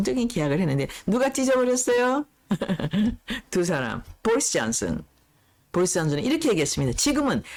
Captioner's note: laughs